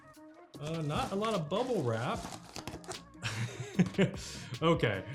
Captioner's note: chuckles